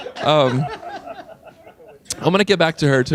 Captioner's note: laughing